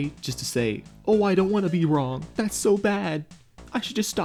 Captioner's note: faux frightened voice